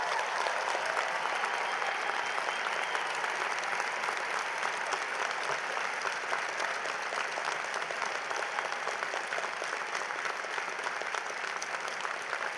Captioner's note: applause